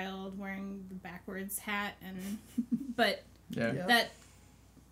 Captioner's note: laughs